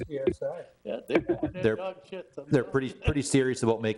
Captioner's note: chuckle